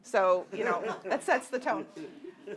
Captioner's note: audience laughing